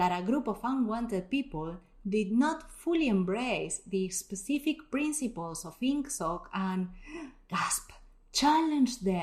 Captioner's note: gasp!